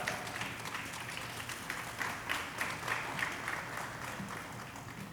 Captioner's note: audience applauding